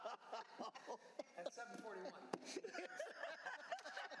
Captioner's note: laughter